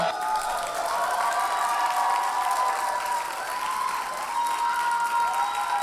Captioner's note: audience cheers and applauds